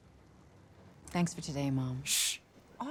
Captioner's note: shushes; whispering